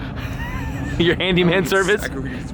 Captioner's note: laughing